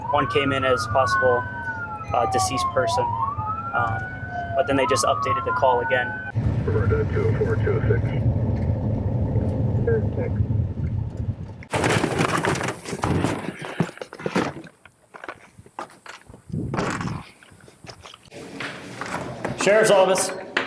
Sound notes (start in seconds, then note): 6.6 radio chattering; 11.7 rustling